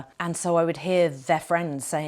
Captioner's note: none